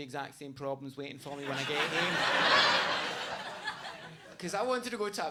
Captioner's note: audience laughs